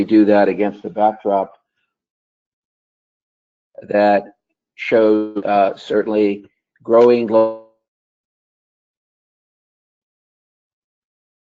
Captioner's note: break in audio